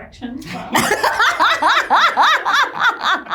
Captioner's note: laughs